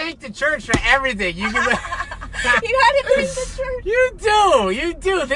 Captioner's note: laughs